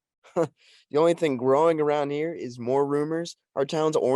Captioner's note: scoffs